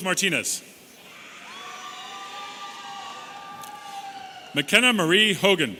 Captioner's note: audience cheering